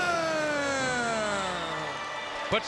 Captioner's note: upbeat music continues; audience cheering